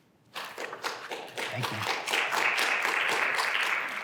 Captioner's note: applause